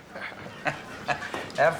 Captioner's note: chuckles